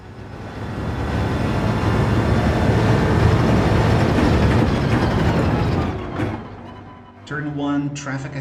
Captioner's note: engines revving, tyres grip, racing sounds